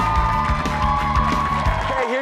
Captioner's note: cheers and applause